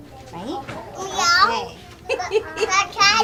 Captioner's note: teacher In Spanish; child meows; laughing